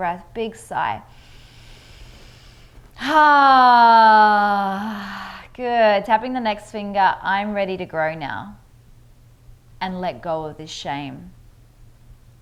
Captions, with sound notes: Big deep breath, big sigh. (loud sighing) Good, tapping the next finger, I'm ready to grow now and let go of the shame.